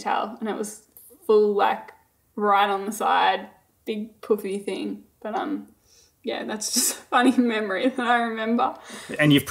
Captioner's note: laughing